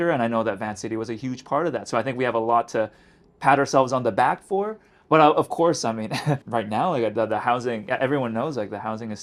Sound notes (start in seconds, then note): 6.1 chuckles